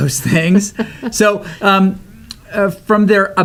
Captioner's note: laughs